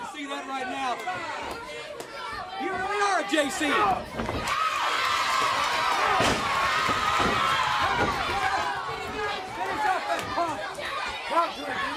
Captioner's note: crowd cheering